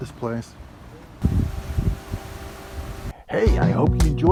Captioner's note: wind blowing